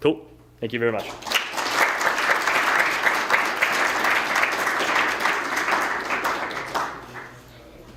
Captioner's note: applause